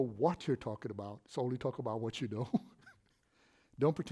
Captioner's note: laughs